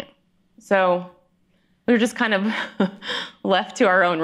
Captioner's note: chuckling